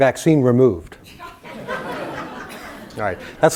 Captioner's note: laugh